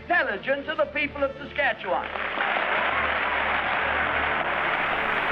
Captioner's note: applause